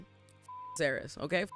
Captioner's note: beep